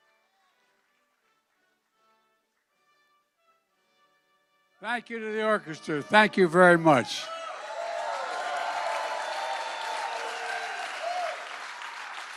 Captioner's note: applause